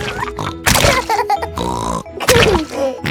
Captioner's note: laughs and snorts